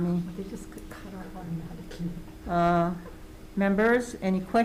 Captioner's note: woman whispering